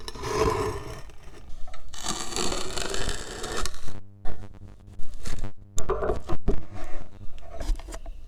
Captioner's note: sound of wood fibers compressing